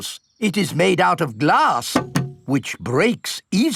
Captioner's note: knocks